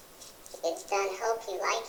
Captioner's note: brush strokes